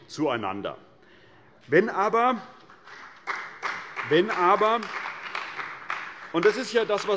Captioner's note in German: Beifall bei der CDU und dem BÜNDNIS 90/DIE GRÜNEN